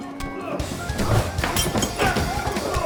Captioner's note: glass shattering